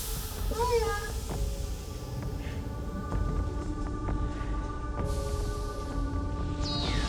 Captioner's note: exhaust hissing; pensive music